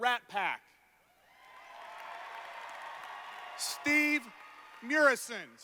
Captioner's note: cheers